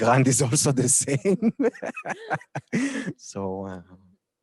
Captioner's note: laughter